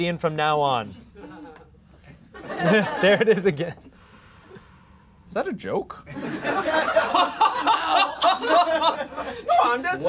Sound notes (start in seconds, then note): 2.0 laughs; 6.1 laughing